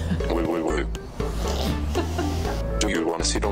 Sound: laughs

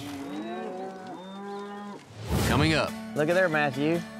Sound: cattle mooing

